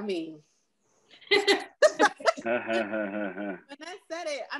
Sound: members laughs

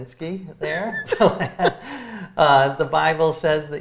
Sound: both laughing

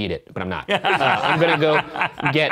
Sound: all laughing

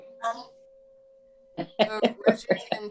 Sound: chuckles

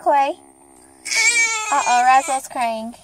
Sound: crying

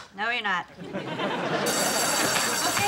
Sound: bell ringing

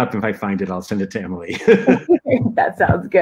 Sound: laughter

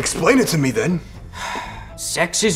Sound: sighs

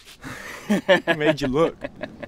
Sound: laughing

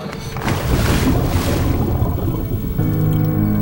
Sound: water turbulence; serene music

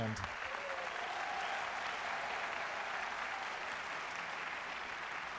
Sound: audience cheering and applauding

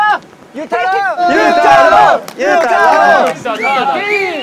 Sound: advancing with a loud cheer

